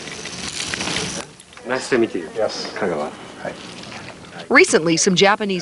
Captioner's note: speaking Japanese